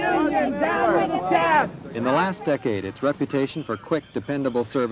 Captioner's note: chanting